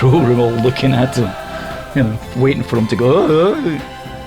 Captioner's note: makes noise with throat